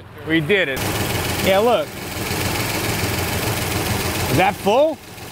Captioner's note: engine roars